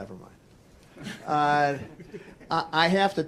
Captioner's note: laughter